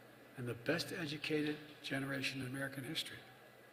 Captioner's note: none